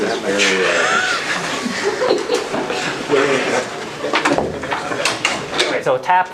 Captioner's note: indistinct conversation